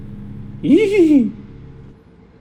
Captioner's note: giddy laughter